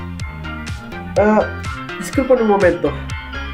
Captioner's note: my phone ringing